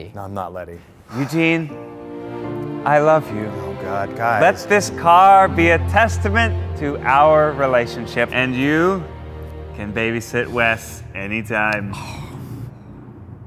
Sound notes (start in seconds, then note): 1.7 dramatic music; 11.9 sighs